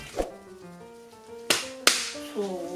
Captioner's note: clap Clap